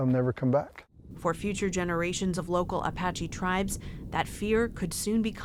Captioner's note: voice-over